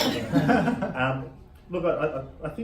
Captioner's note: laughing